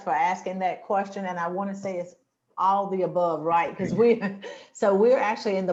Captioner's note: chuckles